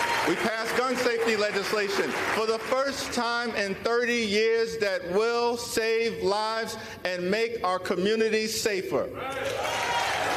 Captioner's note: applause